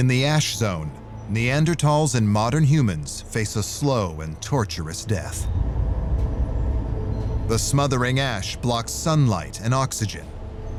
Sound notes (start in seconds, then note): 6.0 deep rumble